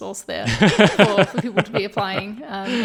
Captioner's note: laughing